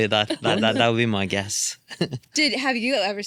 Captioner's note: laughs